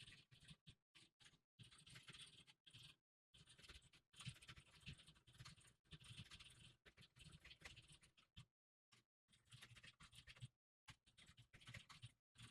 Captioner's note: typing sounds